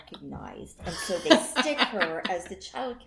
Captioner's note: laughter